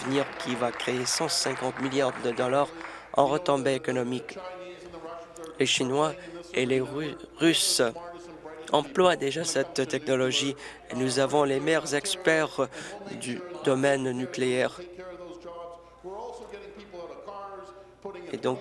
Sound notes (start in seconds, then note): 3.5 applause